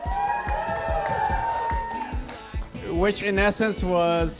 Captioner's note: cheering